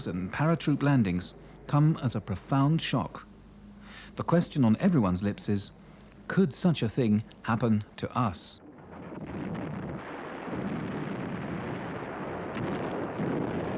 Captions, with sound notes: and paratroop landings come as a profound shock. The question on everyone's lips is could such a thing happen to us? (bombs explode)